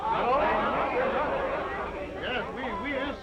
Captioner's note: all chattering